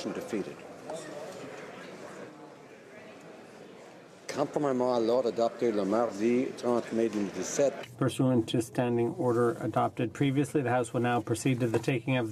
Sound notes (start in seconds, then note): 2.1 some Applause